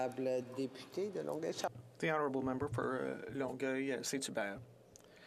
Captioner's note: speaking French